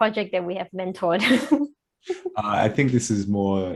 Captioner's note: chuckles